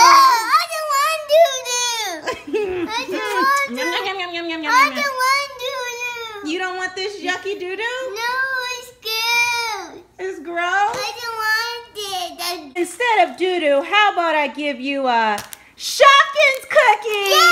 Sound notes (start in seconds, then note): 6.5 voiceover; 10.5 voiceover; 12.8 voiceover